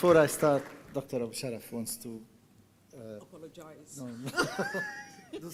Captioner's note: laughing